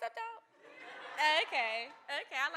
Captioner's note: audience laughing